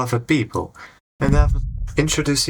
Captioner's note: loud git fall